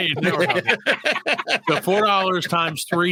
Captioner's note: laughing